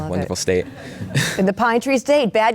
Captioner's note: crowd laughing